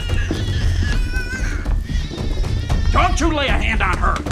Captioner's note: baby crying